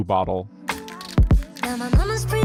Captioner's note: clap thump-thump